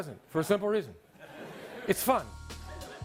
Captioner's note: audience laughs